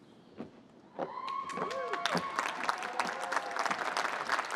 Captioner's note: cheering